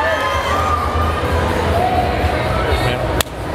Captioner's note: crowd cheering; kissing